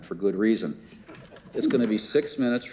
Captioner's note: crowd laughs